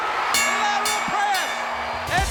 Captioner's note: bell ringing